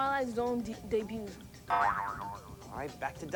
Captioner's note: boing